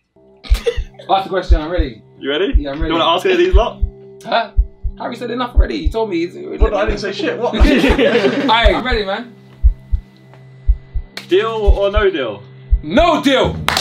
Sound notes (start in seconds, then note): 0.5 Tobi laughs; 7.1 all laughing; 10.5 tense music; 12.4 tense music